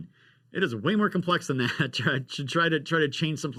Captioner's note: chuckles